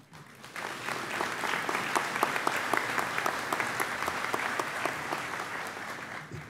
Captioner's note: audience applauds